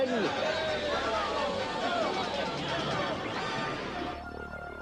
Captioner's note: cheers